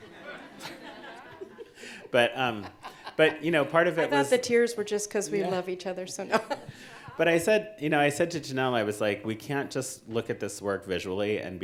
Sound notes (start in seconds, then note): 0.0 audience laughing; 6.2 laughs